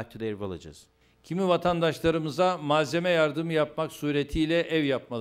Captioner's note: non-english speech